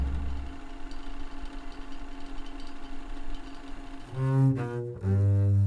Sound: emphatic synth beat; projector humming softly; mellow cello music

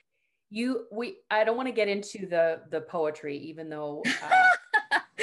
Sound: laughter

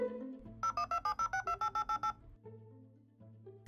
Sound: dial-up internet dialing tone

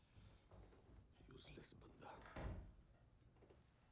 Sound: speaking in Punjabi

